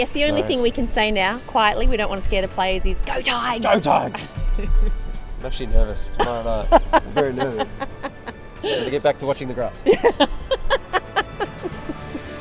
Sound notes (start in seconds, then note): 10.8 laughs